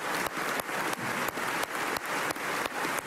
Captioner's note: applause